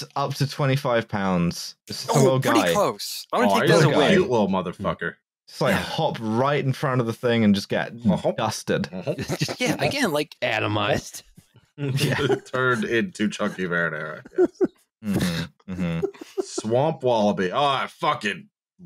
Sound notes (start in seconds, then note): 2.0 quietly; 8.6 hopping noises; 8.9 laughs; 11.0 hopping noises; 11.8 laughter